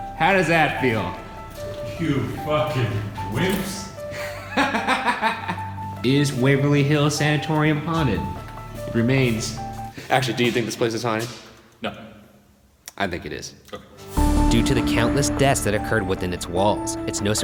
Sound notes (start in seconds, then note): 4.1 laughing